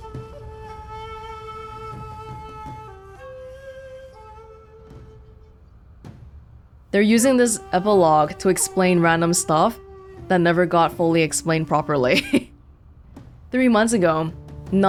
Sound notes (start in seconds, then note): 10.4 chuckles